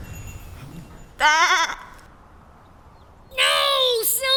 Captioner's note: sheep baa